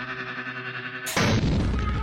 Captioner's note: explosion